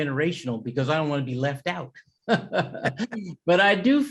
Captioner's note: laughs